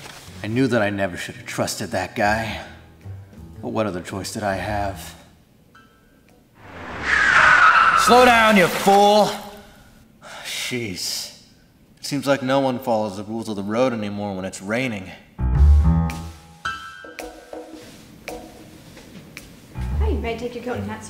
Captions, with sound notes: I knew that I should've never trusted that guy! But, what other choice did I have? [tires screech] Slow down you, fool! Sheez! It seems like no one follows the rules of the road anymore when it's raining. May I have your coat and hat, sir?